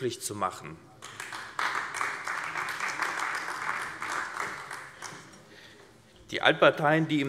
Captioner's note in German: Beifall AfD